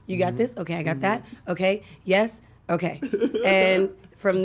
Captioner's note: chuckling